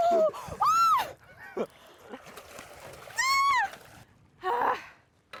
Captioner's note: shrieking